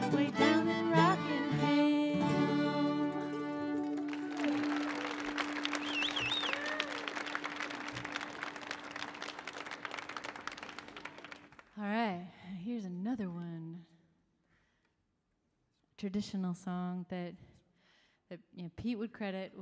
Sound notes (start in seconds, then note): 3.6 audience applauding; 3.8 audience cheering